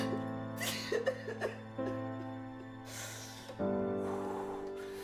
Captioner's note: Johnny sobbing